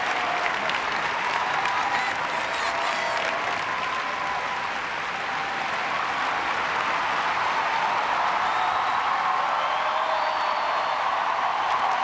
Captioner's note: cheers and applause